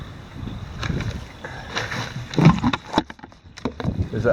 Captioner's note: bucket tumbling